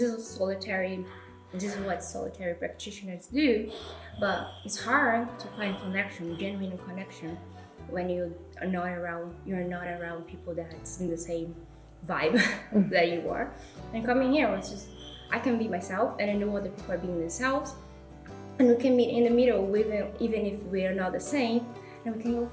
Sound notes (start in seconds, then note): 12.6 laughs